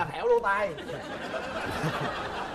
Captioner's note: laughing